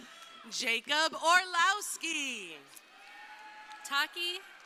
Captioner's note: crowd cheering